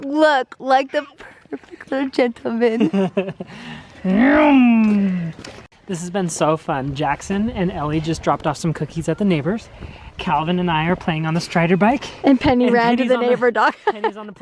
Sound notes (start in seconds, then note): 0.0 laughs; 2.8 laughs; 4.5 makes engine noises; 14.0 laughs